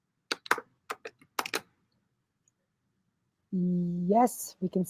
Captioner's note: keyboard keys clicking